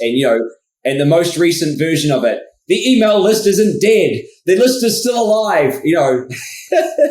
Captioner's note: laughs